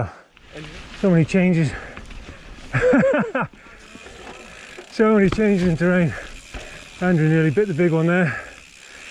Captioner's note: laughs